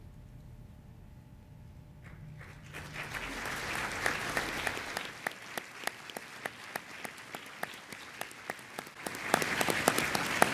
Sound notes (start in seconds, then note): 2.0 audience applauding